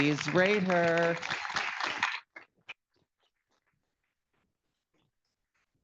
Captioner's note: audience applauding